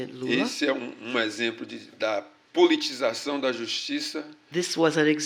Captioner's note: speaking portuguese